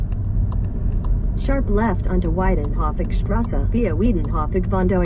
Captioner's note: Google spewing unintelligible directions in pseudo German